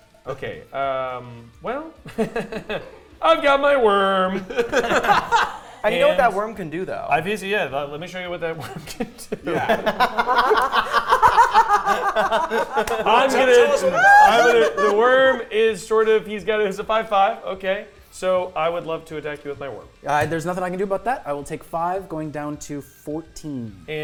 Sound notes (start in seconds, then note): 8.6 players laughing